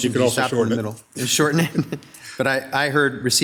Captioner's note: laughs